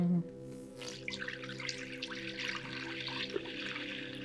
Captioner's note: bottle opens; hums; liquid pours